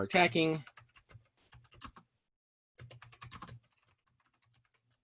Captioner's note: keyboard clicking